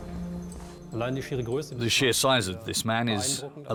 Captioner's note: speaking German